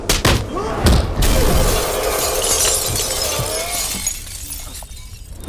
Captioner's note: Windshield shatters